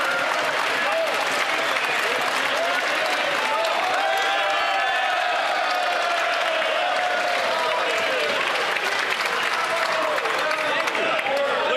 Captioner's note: some Applause